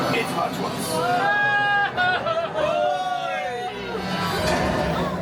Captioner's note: Goofy’s signature yell